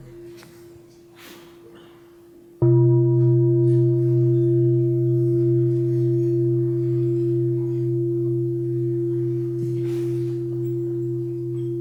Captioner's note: bell